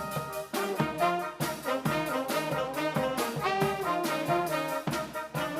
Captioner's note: none